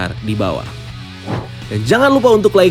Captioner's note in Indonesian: suara transisi